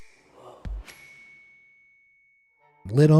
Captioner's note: bell dings